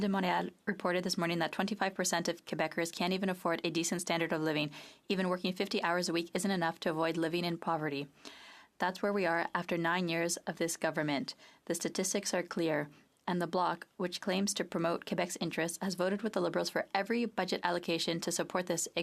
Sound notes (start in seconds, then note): 3.7 speaking French